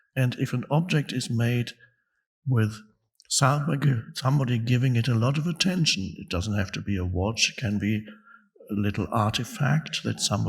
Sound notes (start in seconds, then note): none